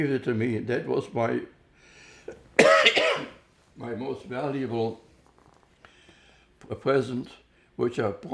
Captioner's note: coughing